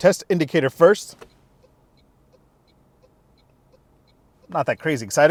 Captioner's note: indicator clicking